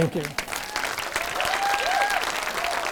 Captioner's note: audience cheering; audience clapping